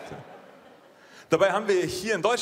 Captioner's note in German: Lachen